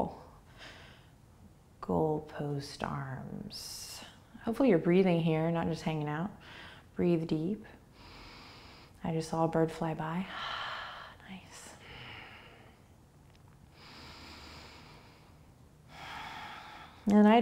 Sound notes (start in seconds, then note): 7.9 inhaling; 11.8 exhaling; 12.2 deep breathing